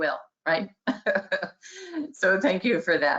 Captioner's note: laughing